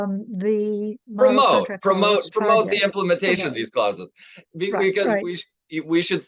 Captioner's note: none